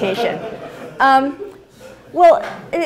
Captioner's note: laughing